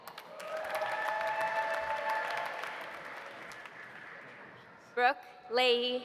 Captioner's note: audience applauding; audience cheering